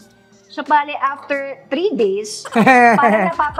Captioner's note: chuckles